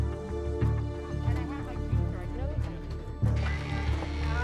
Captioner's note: chatter